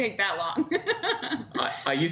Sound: laughter

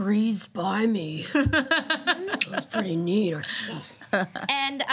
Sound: laughing

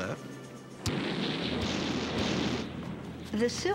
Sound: cannons blasting

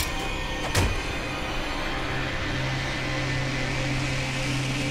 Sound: metal snapping lightly

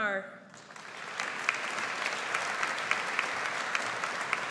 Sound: audience applauds

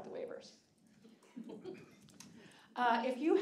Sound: audience laughing

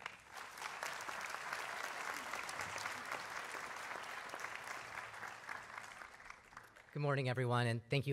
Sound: applause

